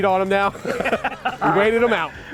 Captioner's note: laughs